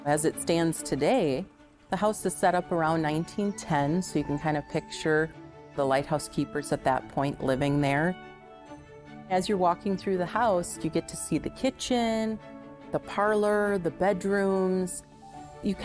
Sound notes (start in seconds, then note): none